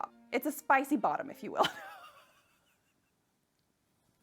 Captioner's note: laughs